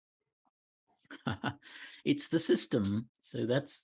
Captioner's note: chuckles